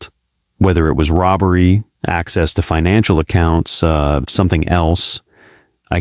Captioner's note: speech